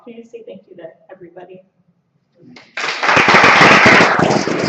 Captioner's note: applause